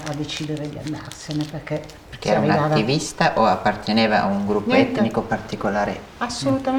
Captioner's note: chatter